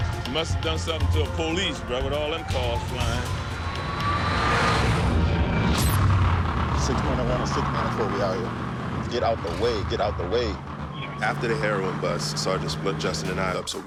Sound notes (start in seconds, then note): 3.7 siren wailing